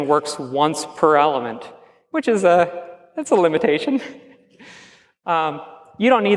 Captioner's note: chuckles